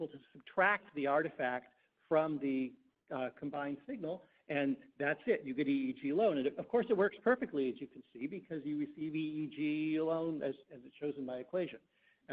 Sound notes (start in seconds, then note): none